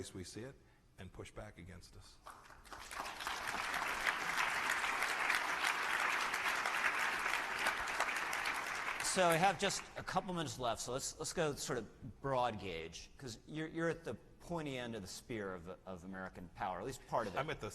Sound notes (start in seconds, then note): 3.2 applause